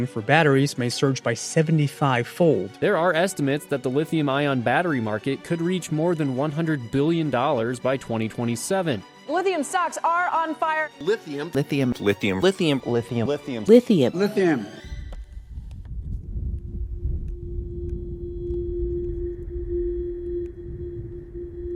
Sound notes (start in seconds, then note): 14.8 wind whistling; 15.0 ominous music